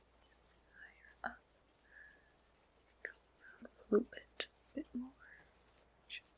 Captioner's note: whispers